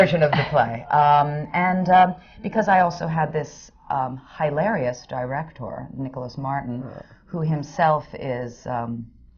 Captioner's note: laughter